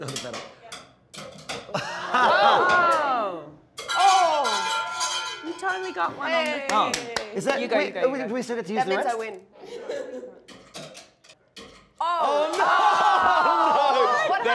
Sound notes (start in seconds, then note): 1.7 laughing; 3.4 shouting; 9.6 laughing